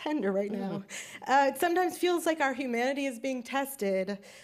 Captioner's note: sobs